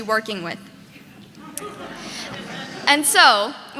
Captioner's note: audience laughing